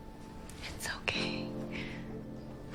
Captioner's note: whispering